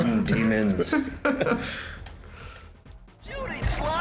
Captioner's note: laughing